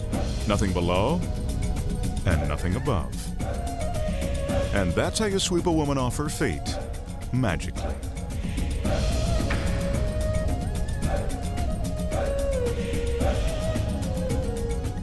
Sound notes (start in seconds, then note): 3.0 singers chanting; 3.0 suspenseful music; 9.1 broomstick thudding; 10.6 light rhythmic music; 10.6 singers chanting